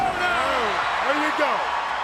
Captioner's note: audience cheers